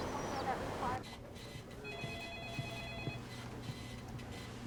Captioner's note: telephone rings